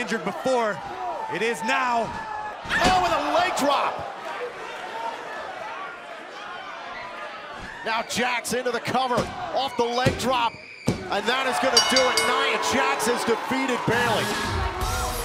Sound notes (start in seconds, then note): 4.8 crowd cheering; 11.6 bell ringing; 12.9 crowd cheering